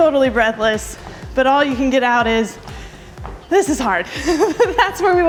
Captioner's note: laughs